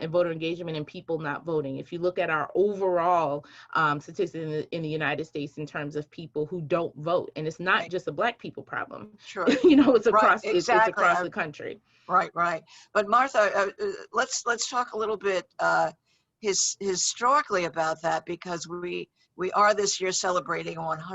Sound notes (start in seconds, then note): 9.4 laughs